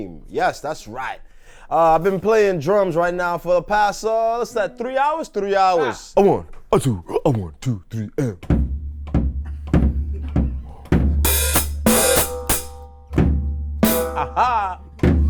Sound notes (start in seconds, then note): 5.6 laughs; 8.2 plays drums